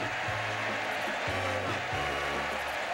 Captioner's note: audience cheering